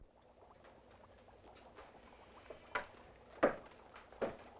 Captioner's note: liquid bubbling